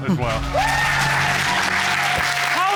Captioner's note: cheers and applause